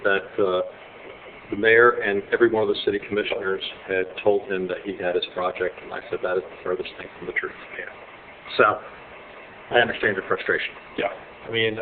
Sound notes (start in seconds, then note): none